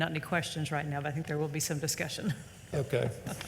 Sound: laughs

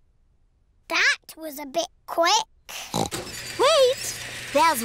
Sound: oinks

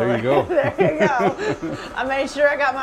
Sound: laughing

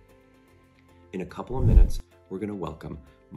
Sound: swoosh

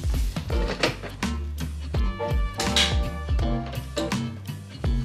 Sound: object clicking

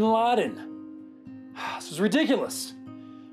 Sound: sighs

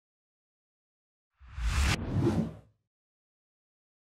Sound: URL whooshes

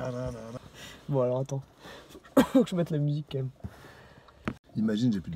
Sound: coughs

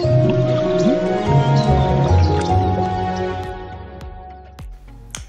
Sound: gentle music; birds chirping

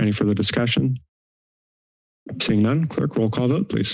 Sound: silence

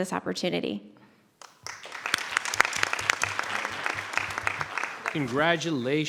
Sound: audience applauding

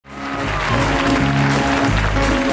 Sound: applause; upbeat soul music

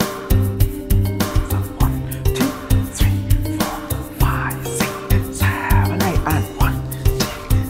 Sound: whispering

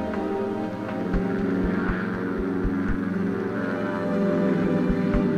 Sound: helicopter engine roaring

